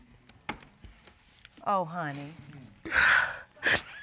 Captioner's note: sobs